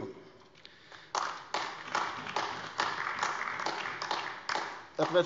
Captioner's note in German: Beifall AfD